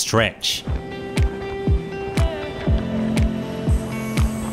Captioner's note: wind blowing